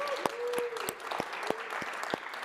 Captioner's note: applause